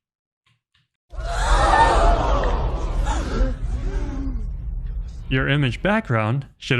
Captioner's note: crowd gasping sound effect